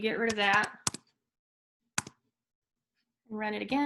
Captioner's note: keyboard clanking